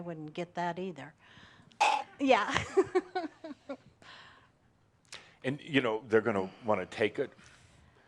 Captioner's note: Adamus gags; she giggles